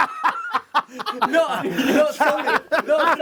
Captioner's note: laughing